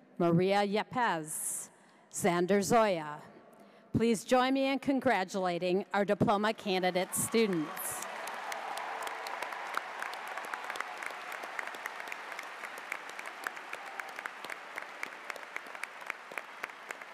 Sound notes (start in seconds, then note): 6.9 cheers; 7.0 audience applauds